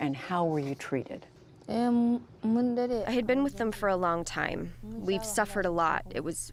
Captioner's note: through translator